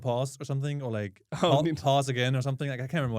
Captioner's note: laughs